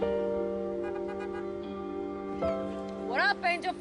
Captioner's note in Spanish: Sonido del claxon